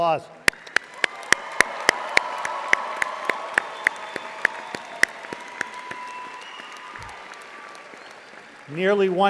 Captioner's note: audience applauding